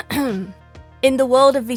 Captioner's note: clears throat